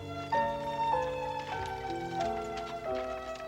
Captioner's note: wagon rattling